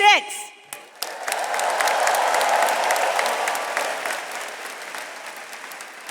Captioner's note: attendees cheering and applauding